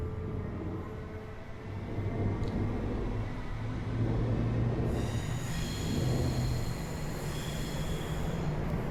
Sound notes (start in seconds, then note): 1.2 train rumbling